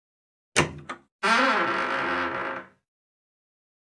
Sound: door opened

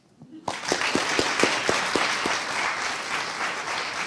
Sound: audience applauding

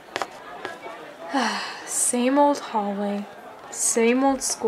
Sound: sighs

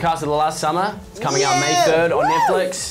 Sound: cheers

